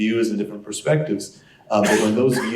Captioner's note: cough